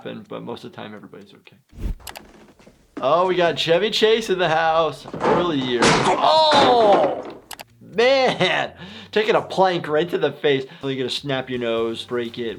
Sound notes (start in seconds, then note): 5.0 board smacks